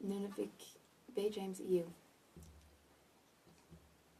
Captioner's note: speaking in French